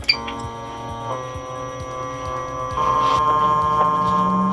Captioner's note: machine whirring